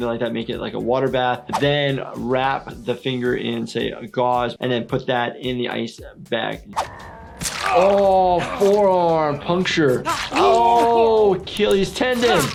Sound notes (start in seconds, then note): 7.3 blood sloshing; 12.2 blood sloshing